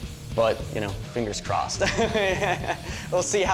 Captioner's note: laughs